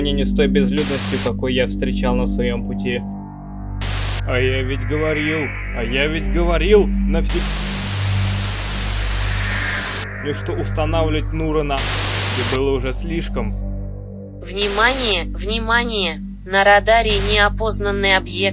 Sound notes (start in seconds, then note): 0.6 static; 17.0 static